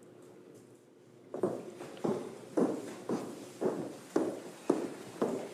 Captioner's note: footsteps thumping